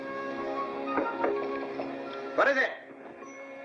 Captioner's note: playful music; knocking